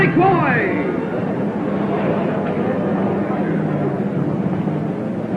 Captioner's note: crowd murmuring